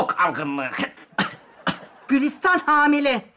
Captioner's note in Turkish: Öksürme sesi